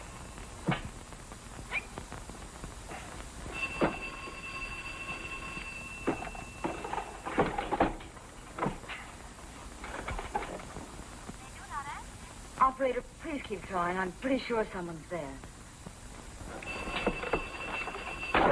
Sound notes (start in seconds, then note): 11.3 on phone; 16.5 phone ringing